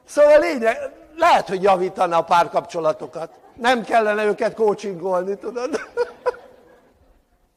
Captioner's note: laughter